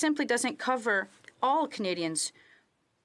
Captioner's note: speaking French